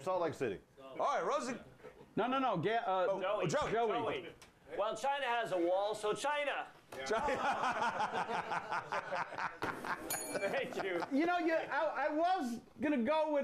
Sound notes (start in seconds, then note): 7.0 laughter; 10.0 bell rings